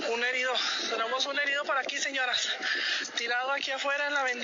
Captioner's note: in Spanish